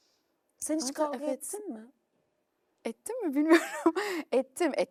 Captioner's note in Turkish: kahkaha